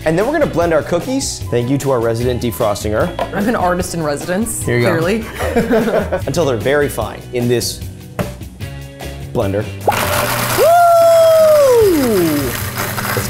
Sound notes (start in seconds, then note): 5.2 both laughing; 9.8 blender humming